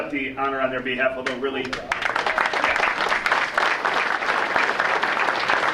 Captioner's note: audience applauding